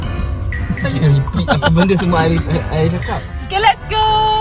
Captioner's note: laugh